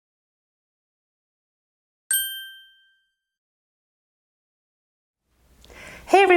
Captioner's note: ding